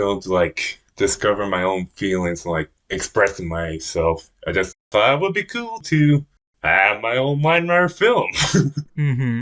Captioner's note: laughs